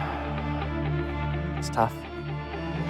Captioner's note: sighs